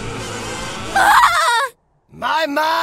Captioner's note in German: schreit